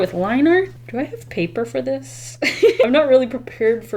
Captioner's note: laughs